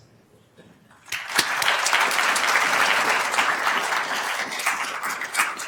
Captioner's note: attendees applauding